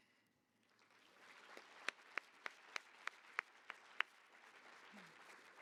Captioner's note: applause